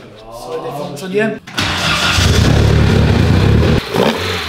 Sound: engine sound

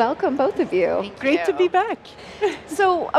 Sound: laughs

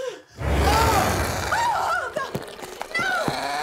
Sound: shrieking

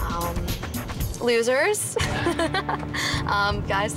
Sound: laughs

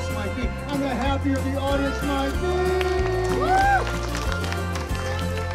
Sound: cheering

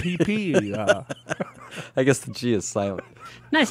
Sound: laughs

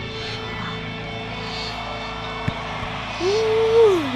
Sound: crowd cheering

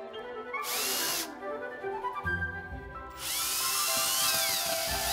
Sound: hand mixer whirring

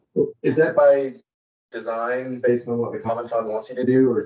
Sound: audio distortion

